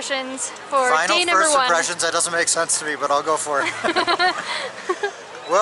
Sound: laughter

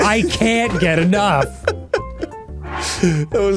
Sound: laughing

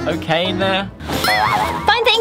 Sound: boing

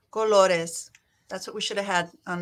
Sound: speaking in foreign language

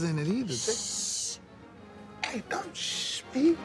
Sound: shushing

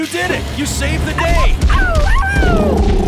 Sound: barking

